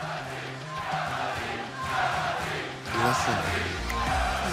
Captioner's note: crowd cheering